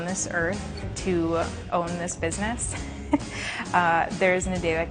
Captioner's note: laughs